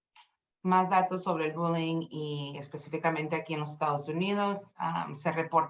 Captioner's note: speaking Spanish